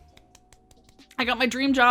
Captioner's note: claps